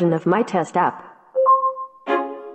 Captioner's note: ping; app music